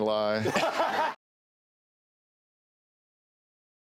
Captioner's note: laughs